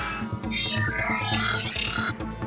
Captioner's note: electronic buzzes